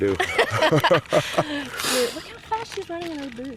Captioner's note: Sarah's parents laughing